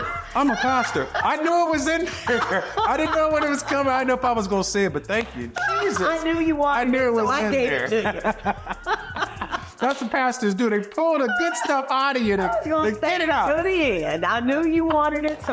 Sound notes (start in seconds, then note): 8.8 laughing